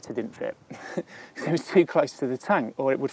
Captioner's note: laughing